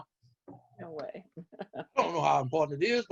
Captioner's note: laughs